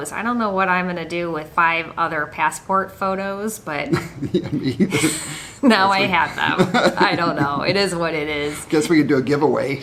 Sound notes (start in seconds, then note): 3.9 laughs